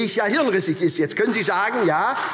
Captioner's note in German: Beifall SPD